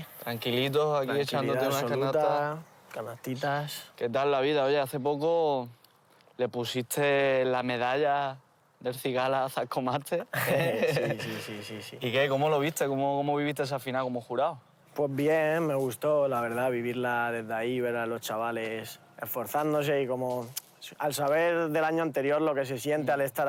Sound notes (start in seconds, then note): 10.2 laughs